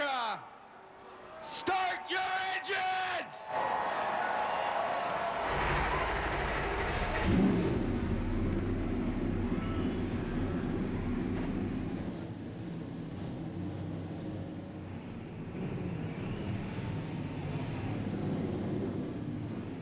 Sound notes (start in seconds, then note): 8.3 engines roar